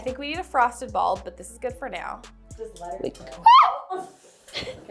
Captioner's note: shrieks